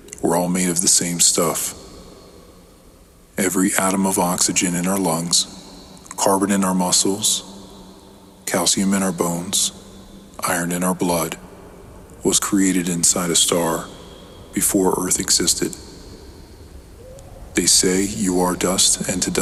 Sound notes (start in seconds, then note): none